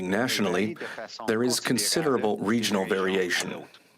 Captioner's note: spking French